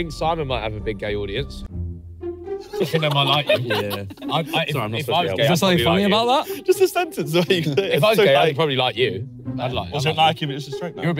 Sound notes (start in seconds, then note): 2.6 laughs